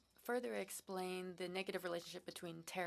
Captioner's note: speaking French